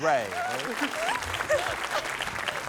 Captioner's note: applause, laughter